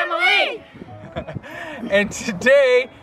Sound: laughing

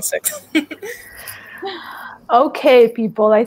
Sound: laughs

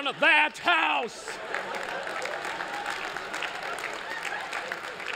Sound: applause

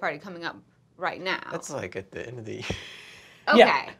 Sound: giggles

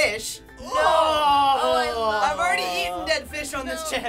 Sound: grossed-out reactions

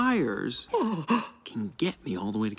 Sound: Luigi gasps

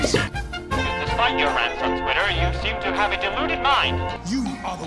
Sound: 1940s Accent

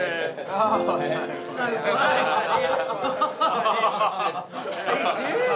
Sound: lifeguards laugh

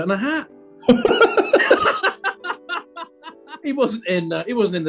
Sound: laughter

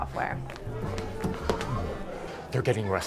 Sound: chatter

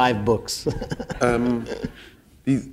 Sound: chuckle

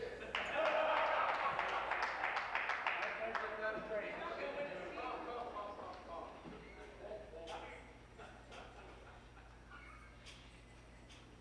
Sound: conversation din

